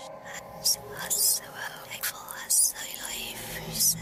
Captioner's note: voices whispering